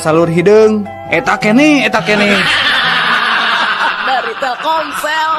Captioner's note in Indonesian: tertawa